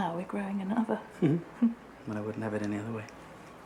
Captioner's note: both chuckle